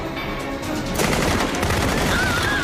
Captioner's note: gunfire